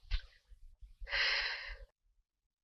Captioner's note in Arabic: يزفر الدخان